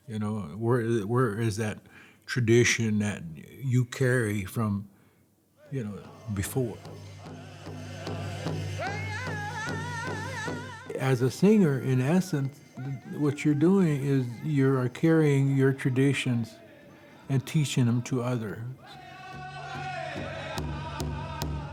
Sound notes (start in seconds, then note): 7.1 chanting